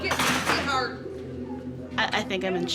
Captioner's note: shouting